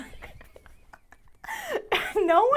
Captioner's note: laughs